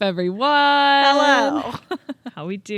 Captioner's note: both laughing